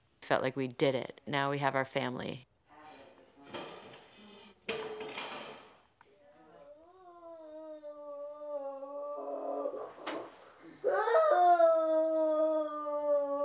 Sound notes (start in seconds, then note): 4.7 items falling; 10.6 sobbing